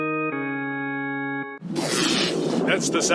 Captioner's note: electrical sound